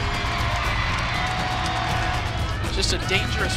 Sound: crowd cheering

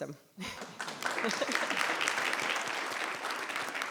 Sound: applause

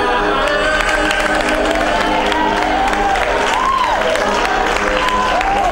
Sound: cheers and applause

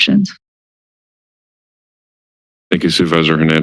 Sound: silence

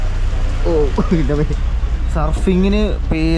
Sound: sound of rainy ambience

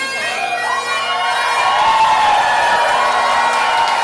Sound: cheering

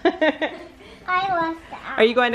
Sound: laughing

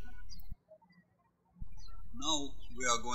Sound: birds chirping

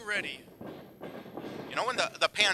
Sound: floor rumbling

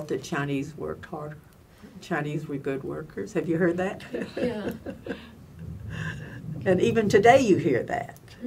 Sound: laughs

